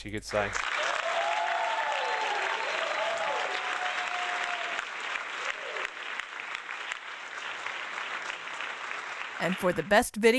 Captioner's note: applause